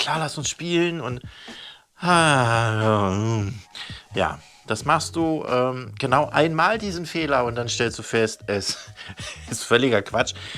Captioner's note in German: seufzt